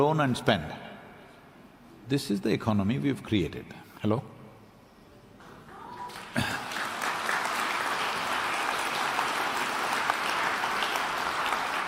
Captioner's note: applause